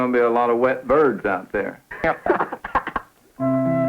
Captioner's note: laughter